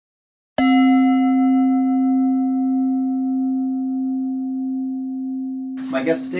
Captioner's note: bell dinging